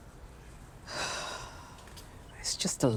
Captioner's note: Diane sighing